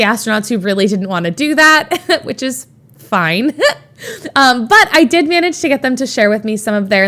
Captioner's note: Emma chuckles